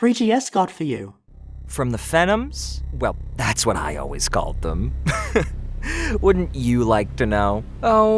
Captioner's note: laughs